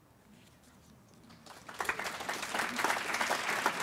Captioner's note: applause